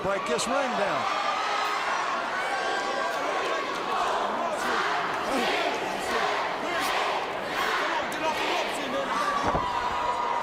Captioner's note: crowd cheering